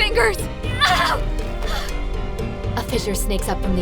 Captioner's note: pained cries